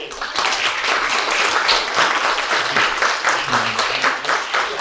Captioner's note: audience applauds